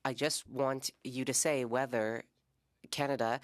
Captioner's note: speaking French